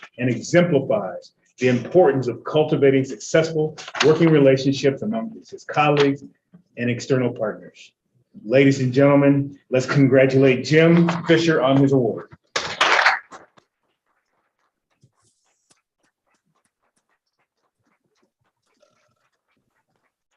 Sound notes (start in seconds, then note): 12.5 applause